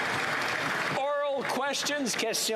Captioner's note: cheering; applause